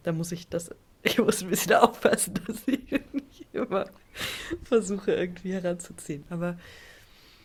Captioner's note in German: gelächter